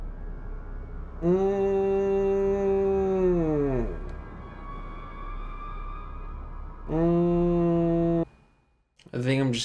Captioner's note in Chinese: Neo中毒音效.wav